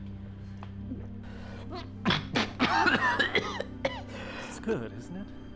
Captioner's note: Dom gulps and chokes